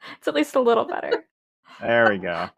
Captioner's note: laughs